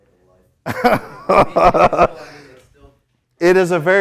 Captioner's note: laughing